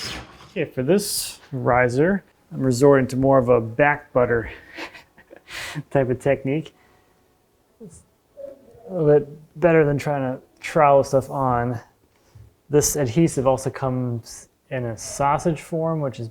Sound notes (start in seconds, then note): 4.4 laughs